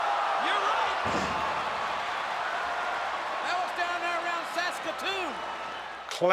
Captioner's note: applause